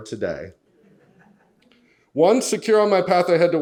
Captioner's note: audience laughs